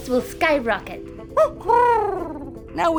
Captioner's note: Huti hoots